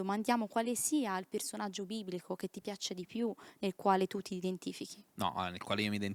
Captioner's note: laughing